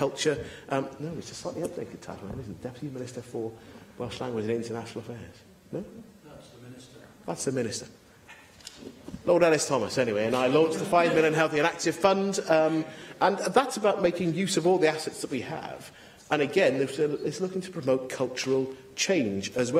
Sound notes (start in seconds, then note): 10.4 laughter